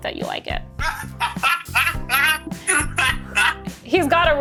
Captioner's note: laughing